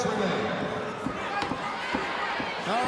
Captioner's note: crowd cheering